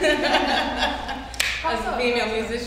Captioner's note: all laughs